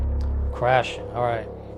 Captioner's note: drone sfx